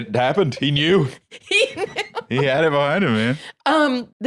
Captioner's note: laughing